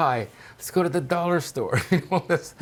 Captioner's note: laughing